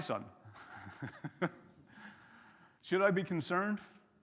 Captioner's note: chuckles